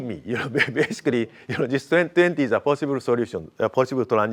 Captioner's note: laughs